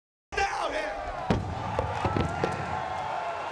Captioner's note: mic clunks; crowd cheering